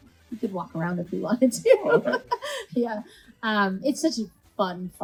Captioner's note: laughs